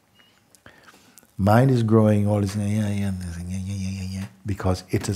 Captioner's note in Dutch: dreinend geluid